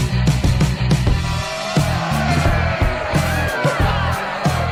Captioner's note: group cheering